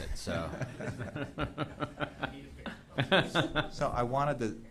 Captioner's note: laughter